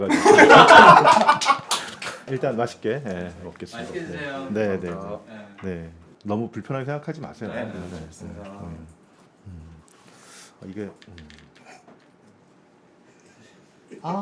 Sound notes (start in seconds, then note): 11.6 laughing; 12.6 A suffocating silence